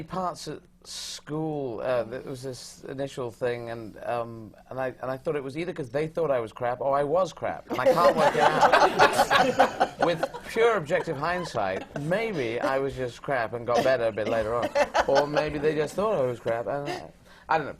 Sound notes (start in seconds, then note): 7.7 laughter